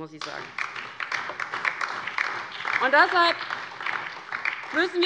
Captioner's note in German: Beifall DIE LINKE und vereinzelt BÜNDNIS 90/DIE GRÜNEN